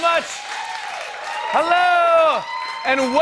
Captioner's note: cheers and applause